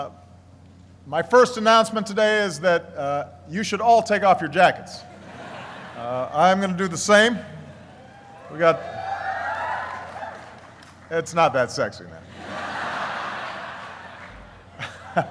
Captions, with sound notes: my first announcement today is that you should all take off your jackets. (laughing) I'm gonna do the same. (cheering) It's not that sexy. (laughing)